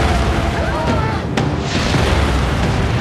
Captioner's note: tires screeching; yells